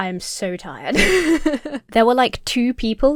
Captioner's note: laughs